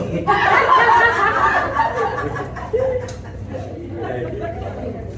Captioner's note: laughter